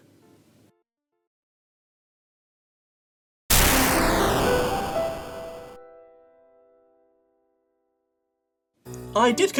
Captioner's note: video game explosion sound